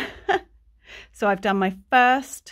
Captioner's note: chuckling